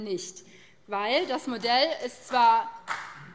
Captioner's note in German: Beifall BÜNDNIS 90/DIE GRÜNEN